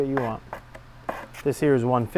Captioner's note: sanding block scraping